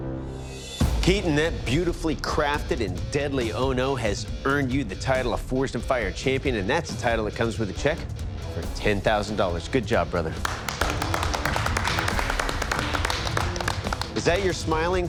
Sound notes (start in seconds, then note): 10.4 applause